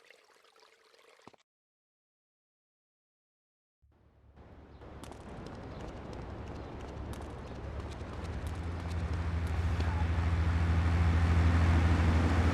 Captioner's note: plane engine roaring